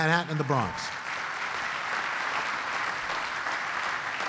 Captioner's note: applause